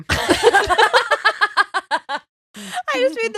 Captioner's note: laughing